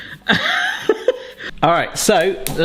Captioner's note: light laughter